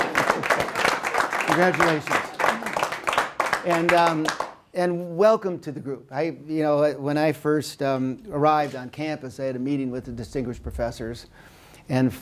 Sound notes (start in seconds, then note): 2.2 applause